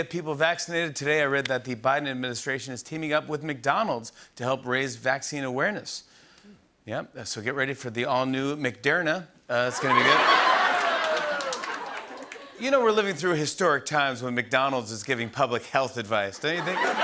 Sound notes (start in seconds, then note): 9.7 laughter and applause